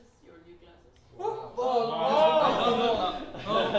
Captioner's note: general cheering